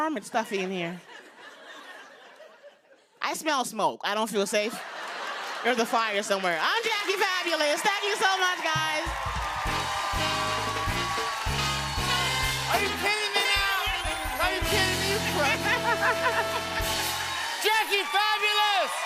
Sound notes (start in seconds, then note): 4.6 laughter; 9.1 cheers and applause